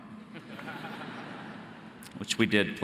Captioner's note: audience laughing